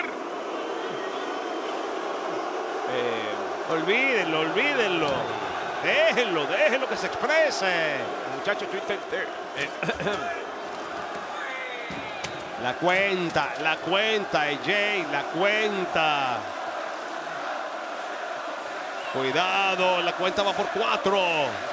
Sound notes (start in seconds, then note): 9.5 cough